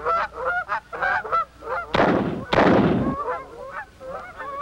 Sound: gunshots

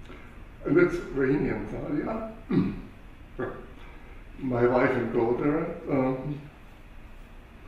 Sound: cough

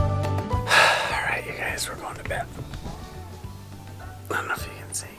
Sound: sighs

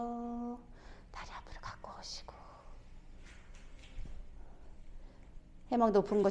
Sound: whispering ASMR

